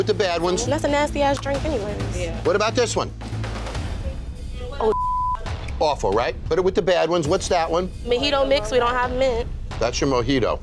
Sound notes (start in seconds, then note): 4.8 beeping